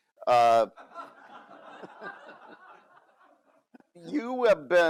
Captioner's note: audience laugh